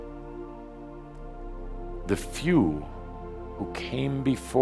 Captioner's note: none